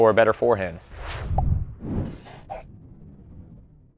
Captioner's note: air whooshes